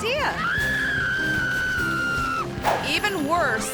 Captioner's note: clown screaming continues